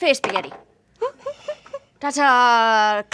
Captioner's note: dice clatter; laughing